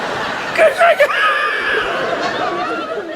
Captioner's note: audience laughs; laughs; audience laughs